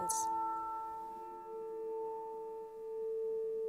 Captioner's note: tone continues